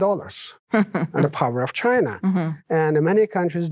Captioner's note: chuckling